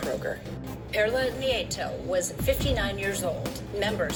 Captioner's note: on TV